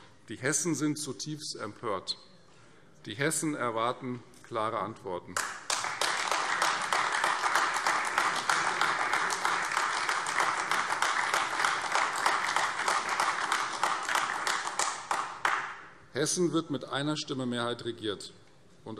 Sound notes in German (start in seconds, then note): 5.4 Beifall Freie Demokraten, AfD und vereinzelt CDU